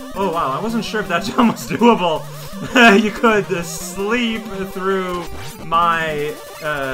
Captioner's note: laugh